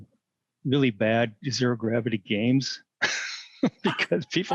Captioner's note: laughter